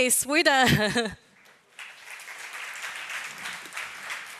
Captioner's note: applause